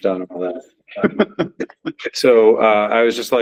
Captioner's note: laughs